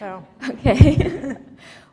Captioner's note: chuckle